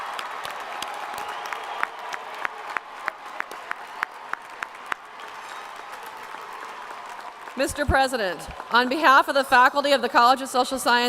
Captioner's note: applause